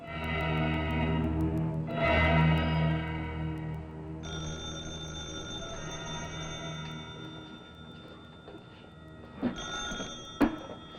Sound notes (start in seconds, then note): 0.0 suspenseful music; 4.2 telephone ringing